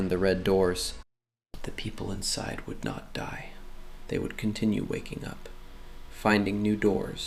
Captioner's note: quietly